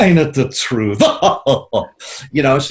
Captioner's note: laughs